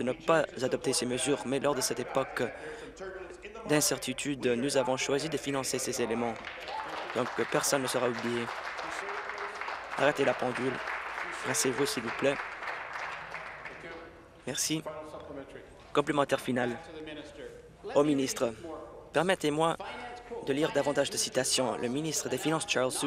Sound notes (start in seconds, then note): 11.4 applause